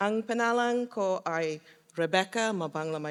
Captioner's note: foreign Language